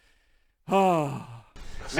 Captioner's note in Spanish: suspiro orgulloso